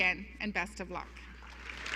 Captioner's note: applause